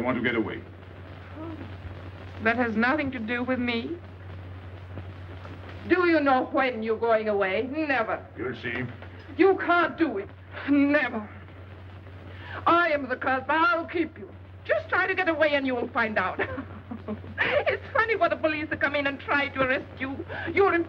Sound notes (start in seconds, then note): 16.3 laughing